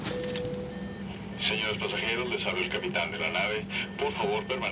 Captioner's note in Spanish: Sonido de motores